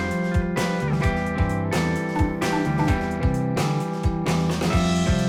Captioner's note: cries